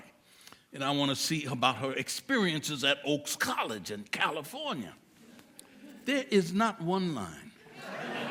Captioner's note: audience chuckles